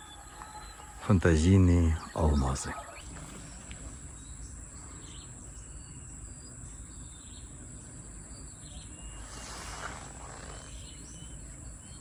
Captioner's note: birds chirping